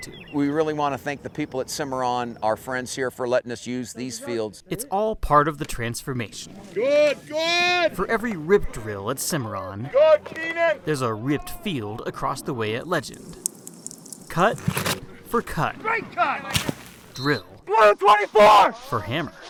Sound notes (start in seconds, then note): 13.0 water dripping